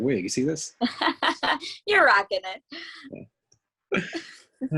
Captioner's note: laughs